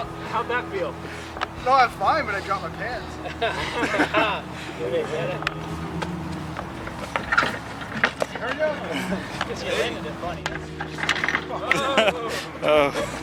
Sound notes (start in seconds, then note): 3.7 all laughing; 4.9 sign creaking; 6.3 feet pattering; 11.2 sign rattling